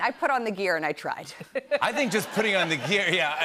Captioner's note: laughter